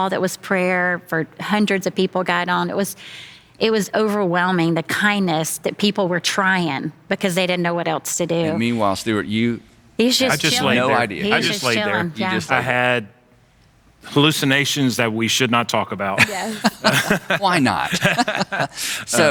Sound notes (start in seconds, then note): 16.1 laughing